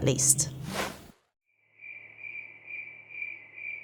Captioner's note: crickets chirping